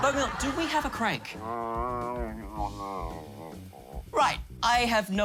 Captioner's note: grumbles